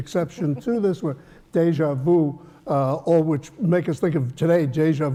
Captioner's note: laugh